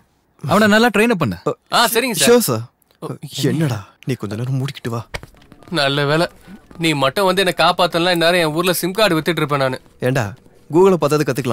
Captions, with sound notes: Train him up. - Okay sir. - Sure sir. [Murmuring] Oh! god. If not for you, I should go to Nellore and sells Jio sims Dude, why can't you learn even from Google.